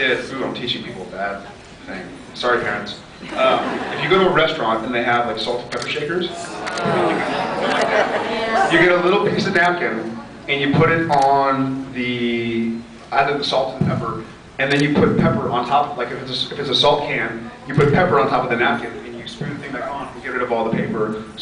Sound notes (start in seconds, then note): 3.3 scattered laughs; 13.7 thumps mic